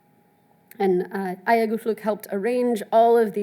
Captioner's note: speaks in foreign language